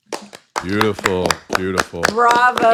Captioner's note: everyone clapping